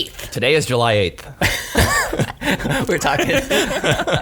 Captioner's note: laughing